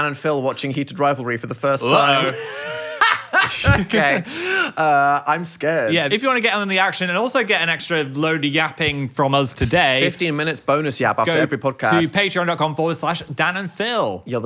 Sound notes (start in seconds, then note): 1.8 laughs